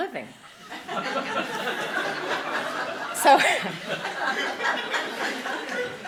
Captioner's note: laughing